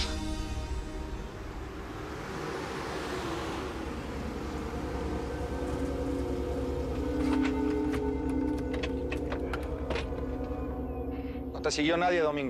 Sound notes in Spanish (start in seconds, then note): 2.7 Ruido de un vehículo